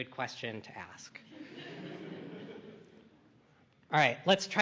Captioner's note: laughter